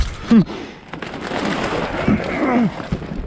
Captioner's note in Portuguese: Auurggh